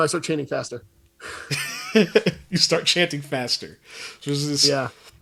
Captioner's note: laughs